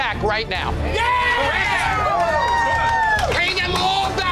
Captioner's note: crowd cheering